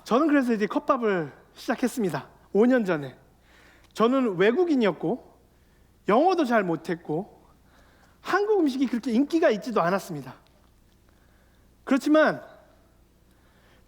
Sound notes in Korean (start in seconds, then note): none